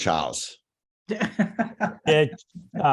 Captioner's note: laughs